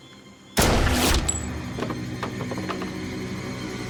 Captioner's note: gunshot